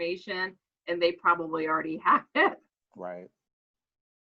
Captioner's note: laughs